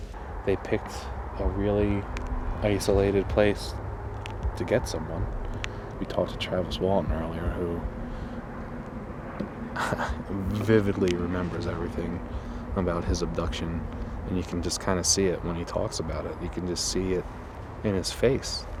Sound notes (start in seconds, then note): 9.7 chuckles